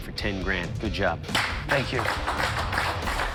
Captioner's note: applause